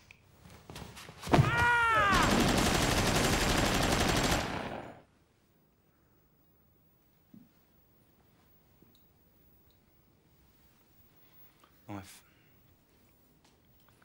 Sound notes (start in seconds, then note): 1.4 Mickey screams; 2.0 machine gunfire